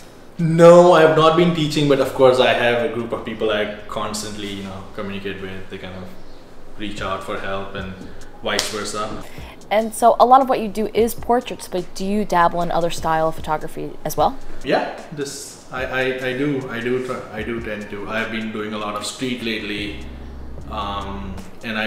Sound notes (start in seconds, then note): 15.6 stammers